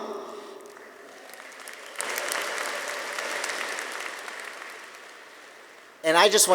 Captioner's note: audience applauding; audience cheering